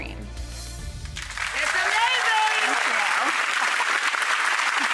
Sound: audience clapping

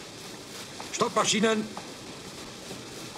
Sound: in German

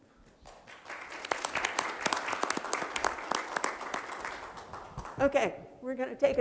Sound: applause

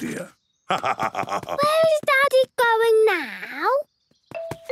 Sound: laugh

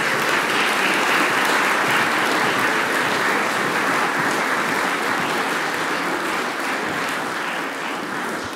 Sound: applause

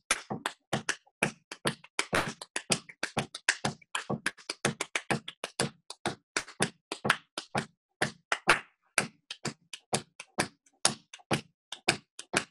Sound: clapping 6 against 4 rhythm

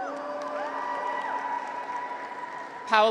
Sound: graduates cheer

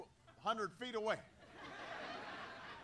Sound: laughter

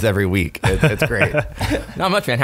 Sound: laughing

